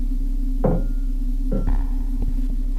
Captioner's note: knocks